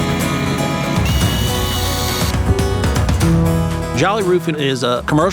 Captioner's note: tools buzzing